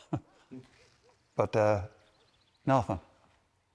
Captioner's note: chuckles